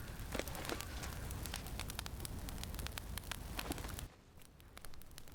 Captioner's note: fire crackling